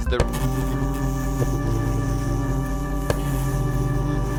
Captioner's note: buzzing noises